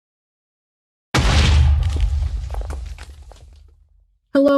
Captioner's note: explosion